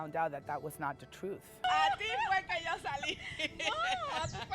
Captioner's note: speaking Spanish